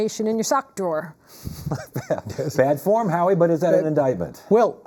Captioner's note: chuckles